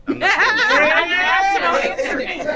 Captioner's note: group laughing